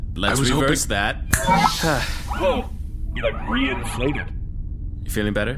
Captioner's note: snaps fingers, Pleck sighs in relief